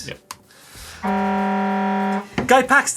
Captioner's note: buzzer